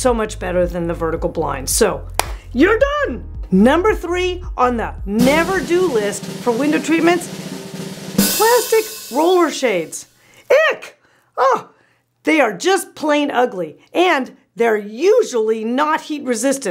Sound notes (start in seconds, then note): 2.2 loud clap; 6.9 drum roll; 9.3 loud boom